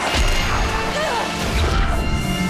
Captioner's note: groaning